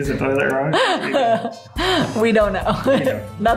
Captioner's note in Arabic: يضحك